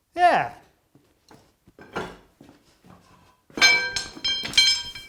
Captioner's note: metal clanging